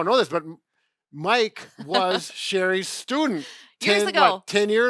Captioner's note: laughing